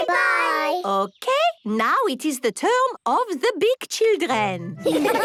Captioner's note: laughter